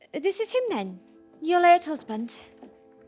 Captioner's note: none